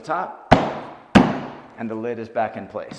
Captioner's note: palm thudding